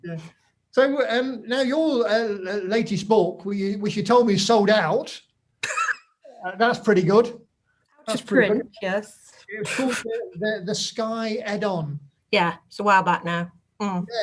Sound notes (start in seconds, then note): 6.3 laughs